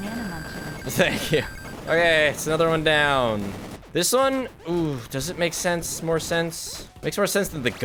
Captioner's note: laughing